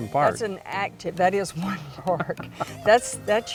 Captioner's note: chuckles